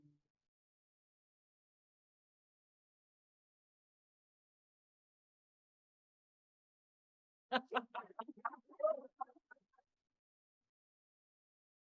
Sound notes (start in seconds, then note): 7.5 laughter